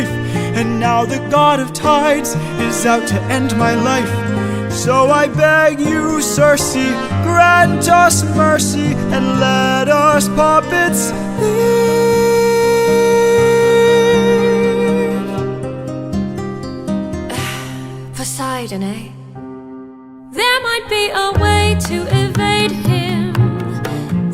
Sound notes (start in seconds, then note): 17.3 sigh